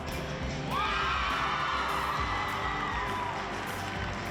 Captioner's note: crowd cheering